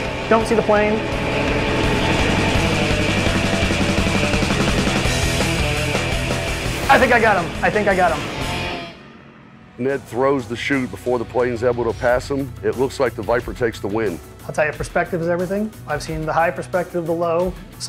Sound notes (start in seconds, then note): 0.0 plane engine roaring; 2.1 rock music; 6.5 plane engine roaring